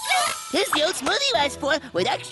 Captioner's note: zing!